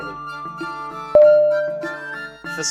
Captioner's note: ding!!!